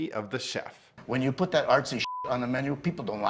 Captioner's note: beep